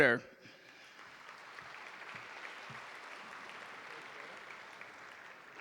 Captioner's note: audience applauding